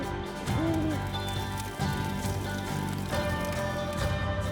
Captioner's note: fire crackling